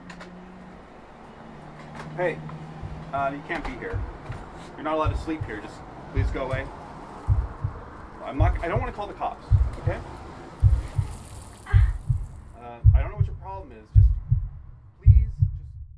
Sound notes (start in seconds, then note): 11.6 groaning; 12.8 heartbeat thumping